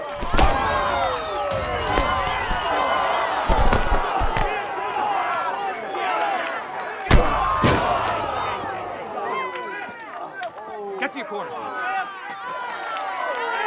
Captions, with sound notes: [bell ringing] Get to your corner.